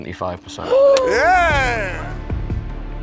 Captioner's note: gasps